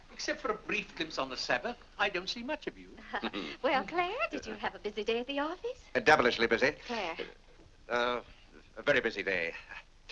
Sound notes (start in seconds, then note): 2.9 Clarence chuckles